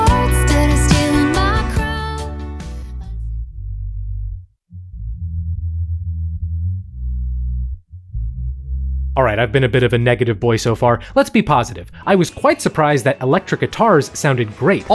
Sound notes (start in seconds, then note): 3.0 low humming